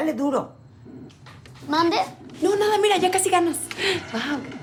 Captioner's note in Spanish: En voz baja